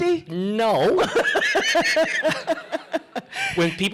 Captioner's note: laughter